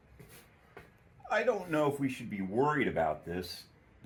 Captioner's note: none